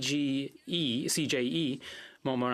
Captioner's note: speaking French